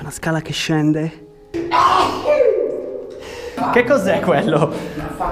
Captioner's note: sneezes